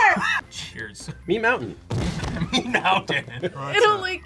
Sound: laughs

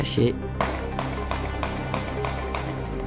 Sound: gunshots

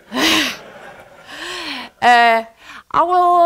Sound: laughter

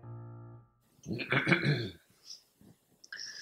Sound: throat clearing

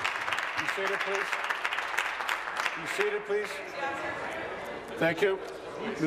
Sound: applause

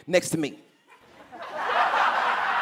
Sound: laughter

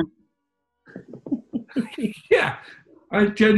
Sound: laughing

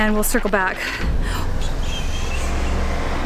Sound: gasps

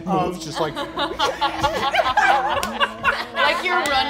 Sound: all laughing

